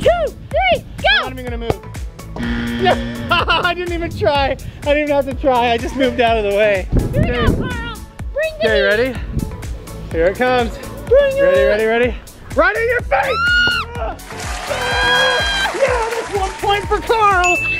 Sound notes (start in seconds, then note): 2.4 buzzer